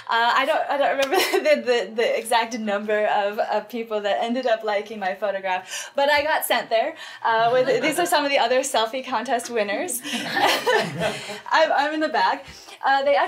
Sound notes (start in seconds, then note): 10.1 all laugh